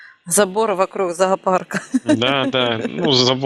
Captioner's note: laughing